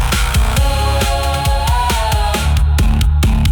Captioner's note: chanting